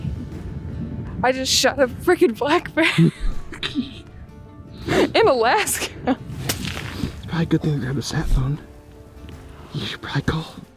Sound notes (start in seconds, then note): 2.6 laughing; 6.2 gun firing